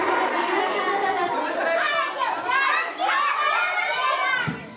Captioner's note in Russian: детский шум; смех